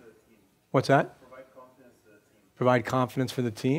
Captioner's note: voiceover